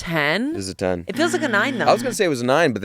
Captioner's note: buzzer blares